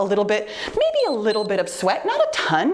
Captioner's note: timer beeps